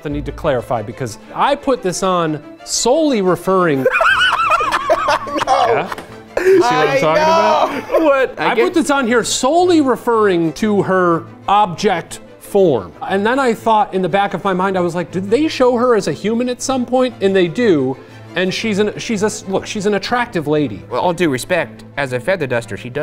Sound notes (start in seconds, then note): 3.8 laughs